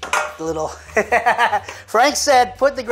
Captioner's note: laughs